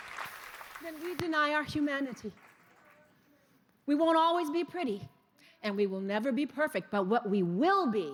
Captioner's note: cheers and applause